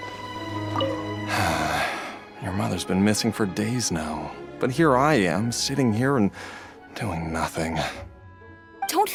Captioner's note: sigh